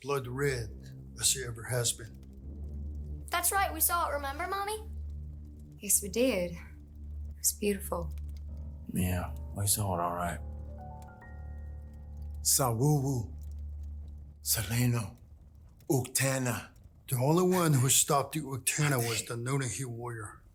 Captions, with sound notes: blood red as it ever has been. That’s right, we saw it. Remember, Mommy? Yes, we did. It was beautiful. Yeah, we saw it alright. [Speaking Cherokee language] The only one who has stopped the Uktena was the Nunnehi warrior.